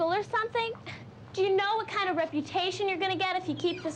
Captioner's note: door squeaking